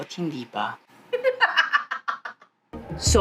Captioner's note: evil laughter